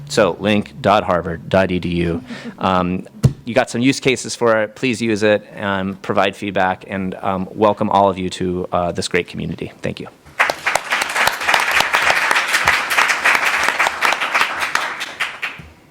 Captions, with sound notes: So link.Harvard.edu. You've got some use cases for it, please use it and provide feedback. And welcome, all of you, to this great community. Thank you [APPLAUSE]